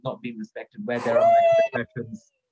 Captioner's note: shrieks